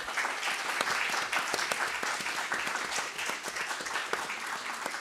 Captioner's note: applause